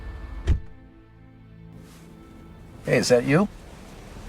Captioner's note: door shuts